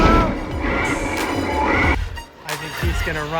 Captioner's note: car revving